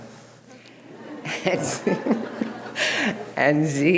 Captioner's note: audience laughing